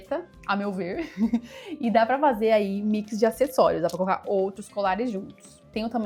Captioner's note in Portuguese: risadas